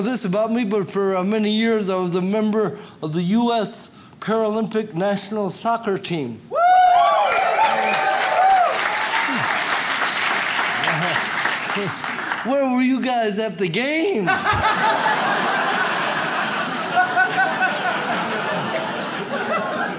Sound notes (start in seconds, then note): 6.5 audience cheers; 14.2 audience laughs